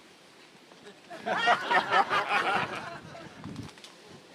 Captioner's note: audience laughing